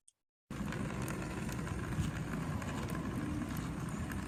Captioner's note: cane rattling